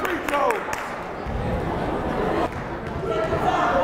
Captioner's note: yelling